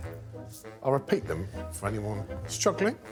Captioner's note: whistle blows